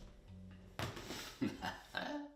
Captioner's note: evil laughing